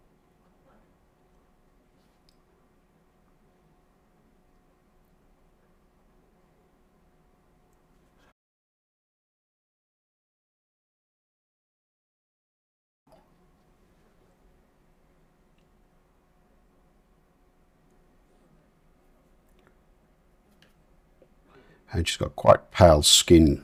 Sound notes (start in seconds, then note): 4.5 silence